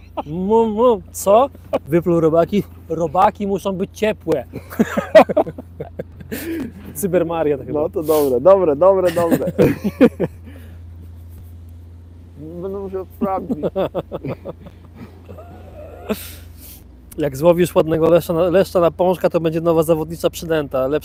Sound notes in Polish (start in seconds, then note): 13.3 śmiech